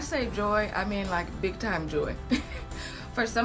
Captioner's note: chuckles